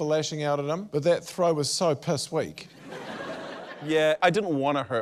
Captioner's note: laughter